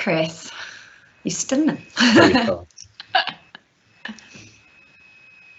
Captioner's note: laughing